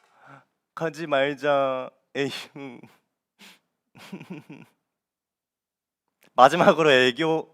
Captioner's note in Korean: 웃음